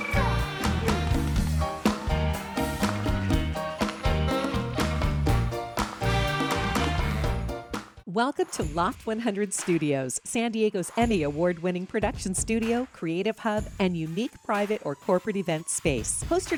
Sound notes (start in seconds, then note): 0.0 audience cheering and applauding; 2.7 audience cheering; 2.7 bright music